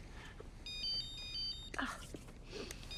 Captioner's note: phone ringing